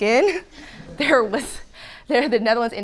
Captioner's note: audience laughing